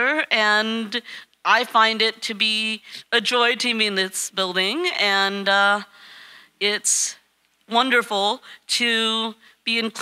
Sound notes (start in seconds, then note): none